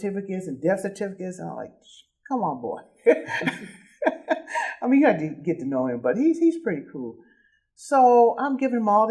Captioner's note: laughing